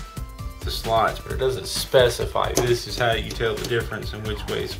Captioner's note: thumping sound